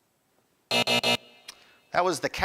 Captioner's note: buzzer buzzing